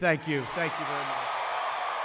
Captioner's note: applause